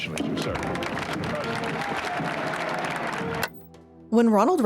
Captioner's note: participants applauding